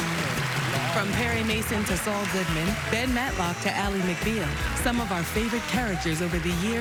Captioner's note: applause